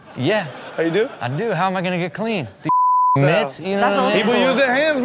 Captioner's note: beep